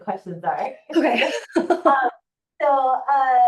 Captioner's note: laughing